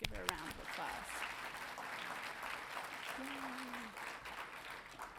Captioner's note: audience applauding